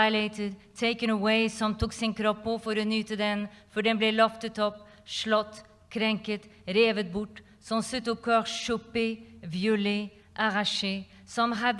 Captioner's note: non-english speech